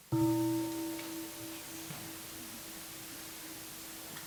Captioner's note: gong